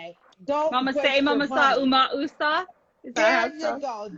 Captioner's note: speaking in foreign language